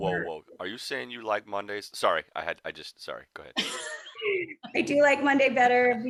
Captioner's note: laughing